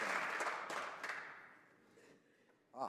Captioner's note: speaking French